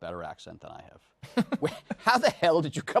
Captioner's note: chuckles